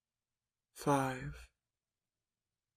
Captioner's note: voiceover